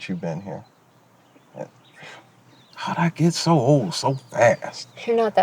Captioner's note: scoffs